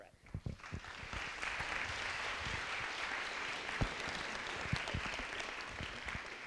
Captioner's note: applause